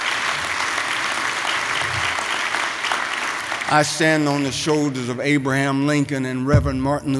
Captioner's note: applause